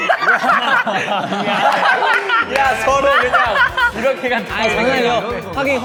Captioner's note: hahahaha